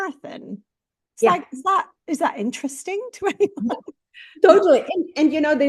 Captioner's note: laughs